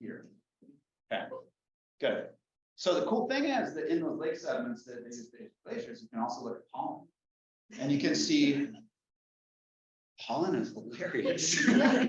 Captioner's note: laughter